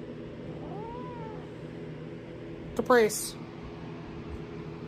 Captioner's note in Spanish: Caprice aúlla